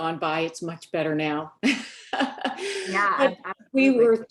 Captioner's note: laughs